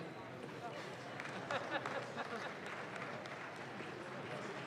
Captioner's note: audience claps